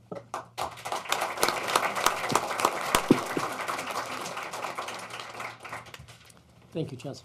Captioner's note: applause